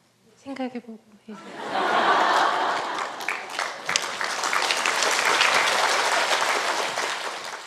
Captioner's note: audience Laughter